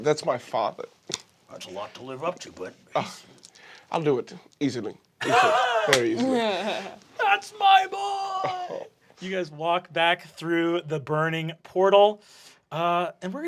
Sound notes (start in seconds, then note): 5.2 cast laughing